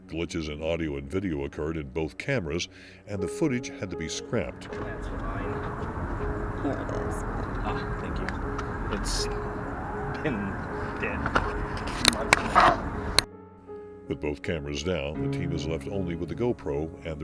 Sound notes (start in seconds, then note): 5.0 lady speaking faintly; 8.6 dramatic music